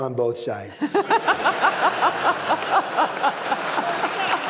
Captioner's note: laughter